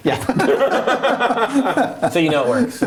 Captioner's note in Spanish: risas